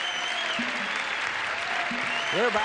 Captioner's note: audience cheering